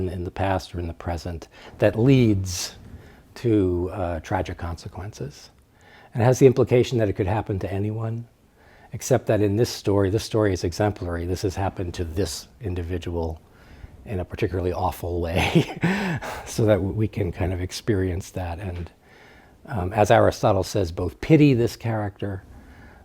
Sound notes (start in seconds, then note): 15.3 laughs